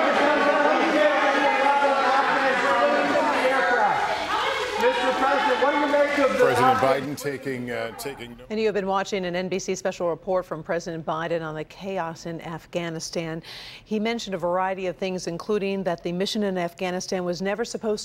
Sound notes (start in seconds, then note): 4.8 shouting